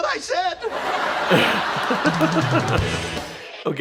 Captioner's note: laugh track and laugh